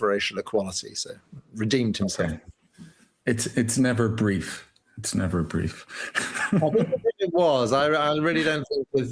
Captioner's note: laughter